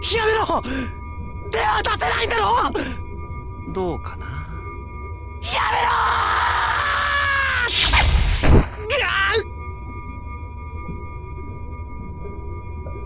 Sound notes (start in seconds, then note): 9.2 pained wince